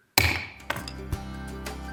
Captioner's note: gavel bangs; gentle music